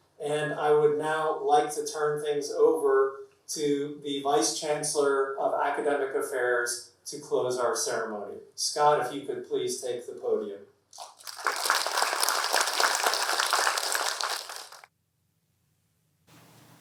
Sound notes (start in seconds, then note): 10.9 audience applauding